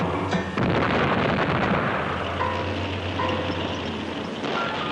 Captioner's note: explosions booming